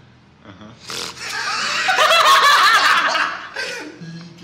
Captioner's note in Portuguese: risadas